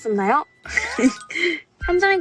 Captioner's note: hehehe